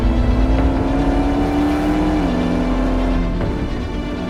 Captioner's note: dramatic music; engine rumbling